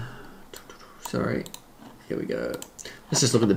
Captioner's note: vocalizes